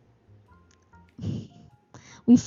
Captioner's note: laughs